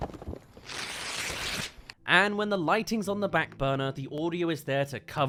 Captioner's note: rippings